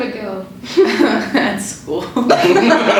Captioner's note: laughs